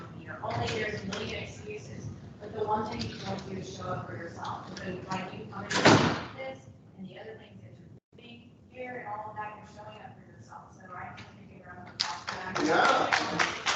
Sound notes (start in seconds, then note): 5.6 door slamming